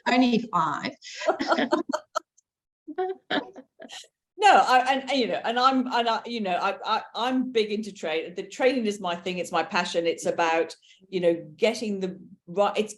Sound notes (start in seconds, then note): 1.3 everyone chuckling